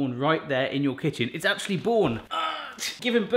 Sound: groaning

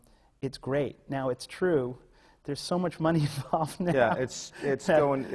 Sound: laughs

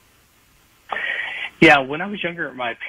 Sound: sighs

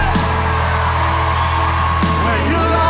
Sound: cheering

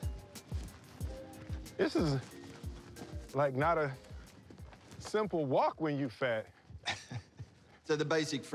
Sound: chuckles

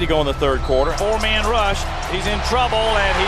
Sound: voiceover

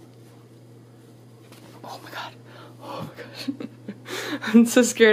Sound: laughing

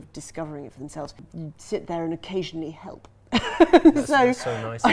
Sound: laughs

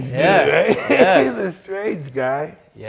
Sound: Mike laughs

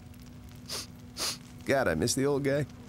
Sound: sniffling

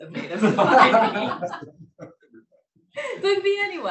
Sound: laughs

